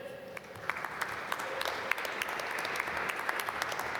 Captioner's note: applause